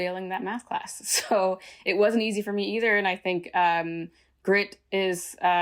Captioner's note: laughter